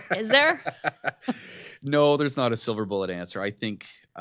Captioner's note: laughs